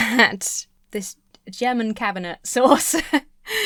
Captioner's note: laughs